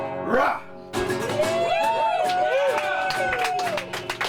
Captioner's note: laughter, applause